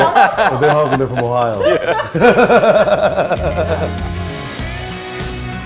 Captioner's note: laughs